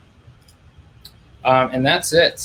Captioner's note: clicking